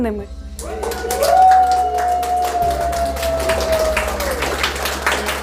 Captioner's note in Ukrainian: діти радісно вигукують і плескають